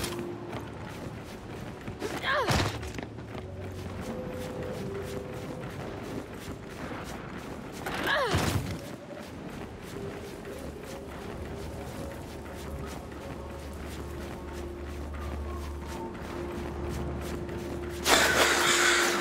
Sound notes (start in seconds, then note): 1.5 suspenseful music; 9.1 buzzing